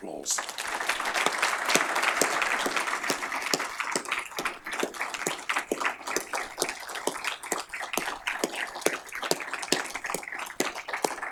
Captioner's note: applause